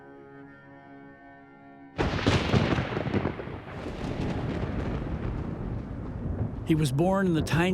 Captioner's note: thunder rumbling